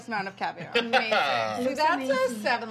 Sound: laughs

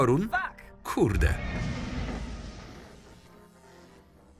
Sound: dragon roar

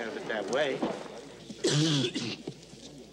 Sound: coughs

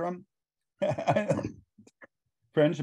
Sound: laughs

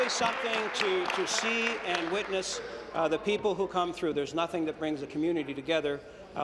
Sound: applause

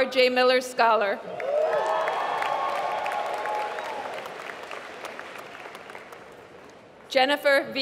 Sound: applause

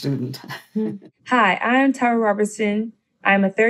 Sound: laugh

